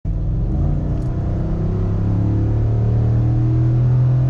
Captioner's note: engine revving